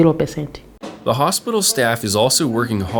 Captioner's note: voiceover